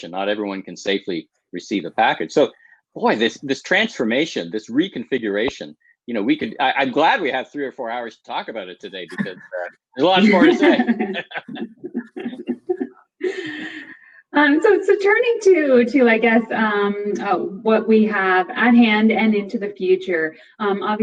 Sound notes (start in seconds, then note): 10.0 laughs